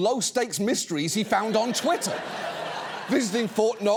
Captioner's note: audience laughs